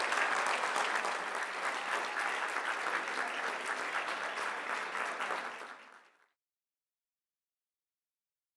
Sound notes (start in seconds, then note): 3.9 audience applauding continues